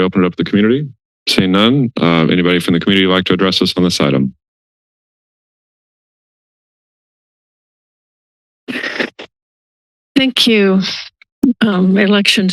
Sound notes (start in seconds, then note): 8.8 mic rustling